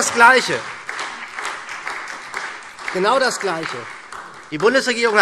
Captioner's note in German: Beifall SPD und vereinzelt BÜNDNIS 90/DIE GRÜNEN - Zurufe Freie Demokraten